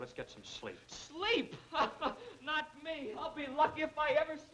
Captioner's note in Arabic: ضاحكًا